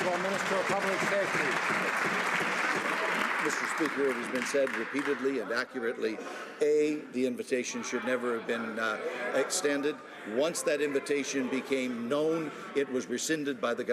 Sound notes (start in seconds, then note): 1.9 some Applause